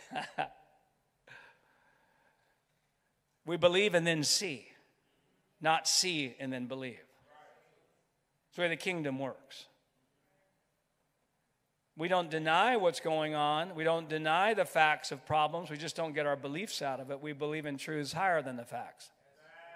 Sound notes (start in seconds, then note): 7.7 crowd; 19.0 crowd